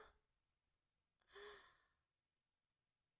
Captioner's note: sighs